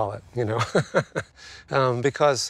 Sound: chuckles

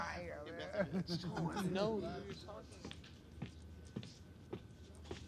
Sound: indistinct chatter

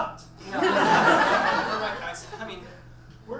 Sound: audience laughs

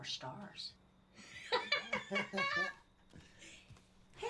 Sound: laughing

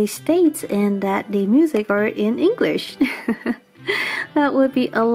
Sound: giggle

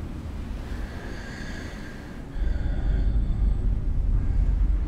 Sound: inhaled deeply and Exhales

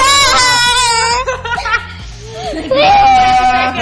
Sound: cries

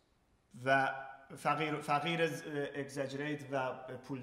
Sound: speaking in farsi

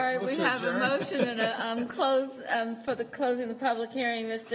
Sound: laughter

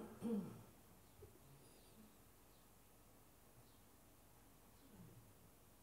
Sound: silence

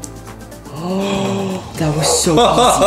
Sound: gasping in unison; laughing

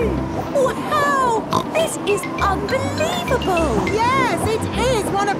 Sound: snorts

